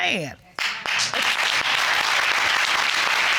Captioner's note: audience clapping